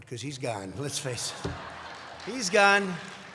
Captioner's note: laughter